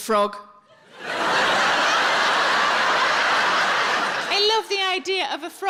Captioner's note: audience laughs